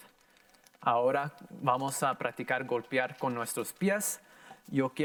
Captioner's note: in foreign language